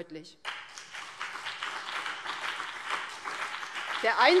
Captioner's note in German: Beifall BÜNDNIS 90/DIE GRÜNEN und CDU